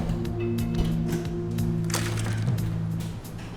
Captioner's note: door clacking; lock clacks open